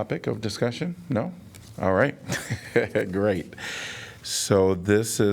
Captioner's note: laughter